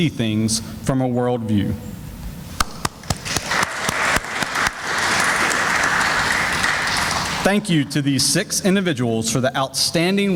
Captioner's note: sounds of applause